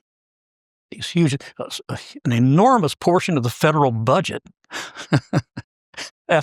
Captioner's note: laugh